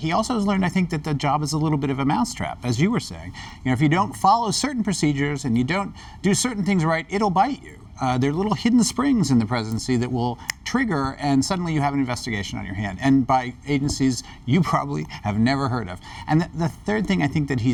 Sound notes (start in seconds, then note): 10.4 snaps fingers